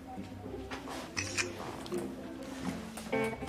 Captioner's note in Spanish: Disparo de cámara